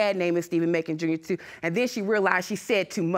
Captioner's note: none